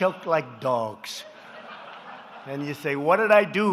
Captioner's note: laughter